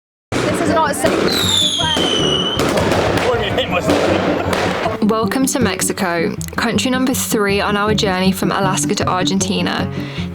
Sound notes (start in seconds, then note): 0.3 explosions and bangs